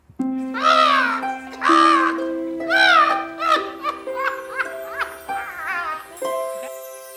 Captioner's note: Wendell squawking; Wendell laughing